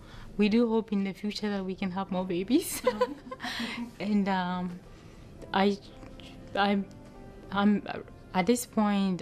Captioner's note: laughter